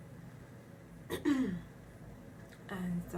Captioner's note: clears throat